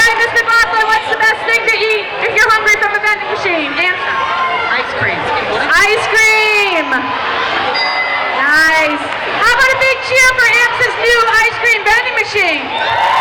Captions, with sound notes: All right Ms. McLaughlin what's the best thing to eat, if your hungry, from a vending machine? - Ice cream. - Ice cream! (dinging) Nice. How about a big cheer for AMSA's new ice cream vending machine?